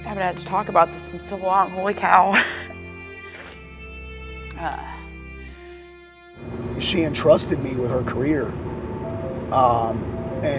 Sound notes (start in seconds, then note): 2.2 chuckles; 3.3 sniffling; 6.4 wind blowing